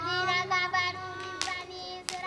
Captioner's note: fire crackling